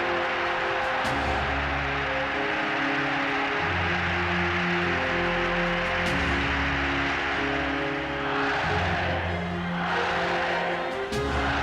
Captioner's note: applause